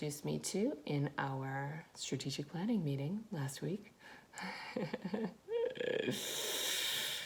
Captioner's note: laughs